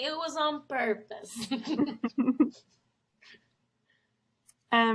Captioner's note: both laugh